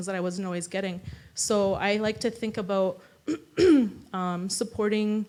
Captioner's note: clears throat